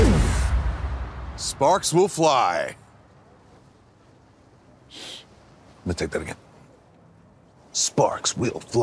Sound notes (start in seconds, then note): 4.9 sniffs